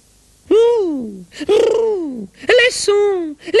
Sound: bruits de bouche ?

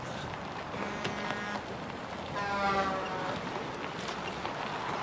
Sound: diesel horn honks

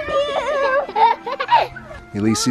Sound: chuckles

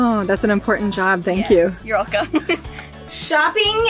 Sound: laughs

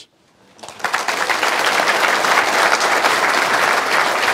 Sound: applause

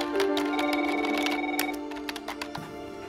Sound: phone rings

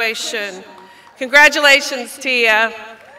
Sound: applause; cheers

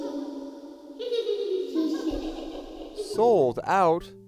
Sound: giggling

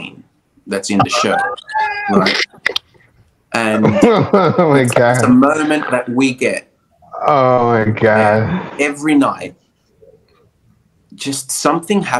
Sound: chuckling

